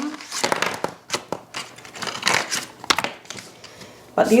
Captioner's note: package rustling